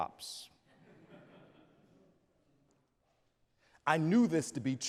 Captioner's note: audience laughs